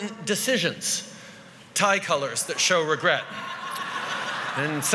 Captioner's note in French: Rires